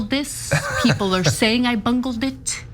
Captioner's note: laugh